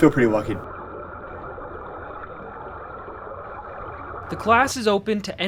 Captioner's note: water gurgling